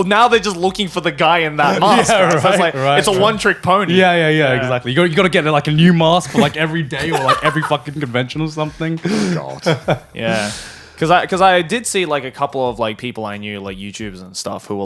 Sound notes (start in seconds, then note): 6.9 laughing; 8.8 chuckles